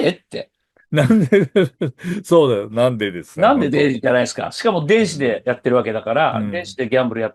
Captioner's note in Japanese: 笑い